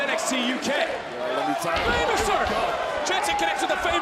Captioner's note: crowd chanting "holy --"